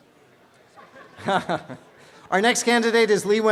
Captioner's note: laughing